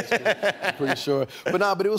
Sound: laughs

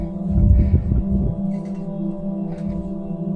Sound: flags flapping in the wind

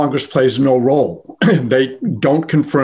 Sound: clearing throat

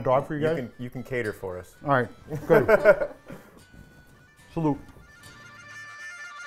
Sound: laughing

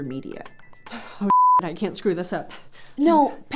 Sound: beep

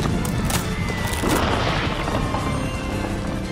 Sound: cracking; crash!

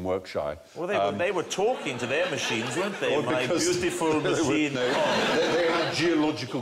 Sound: French accent

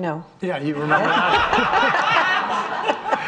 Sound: audience laughing

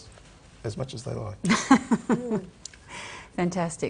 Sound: laughs

